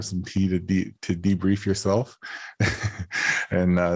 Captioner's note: chuckles